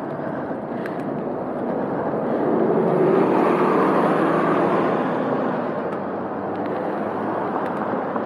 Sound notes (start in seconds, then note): 1.8 bus passes in next lane; 8.0 cars passing